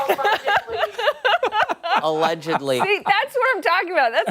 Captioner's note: laughter